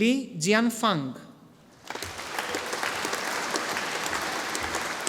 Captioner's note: audience applauding